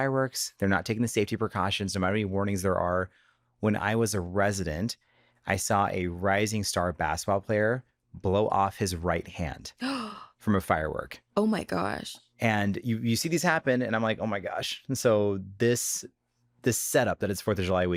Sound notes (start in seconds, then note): 9.3 gasps